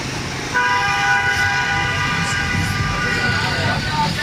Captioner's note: car horn honking; people speaking in foreign language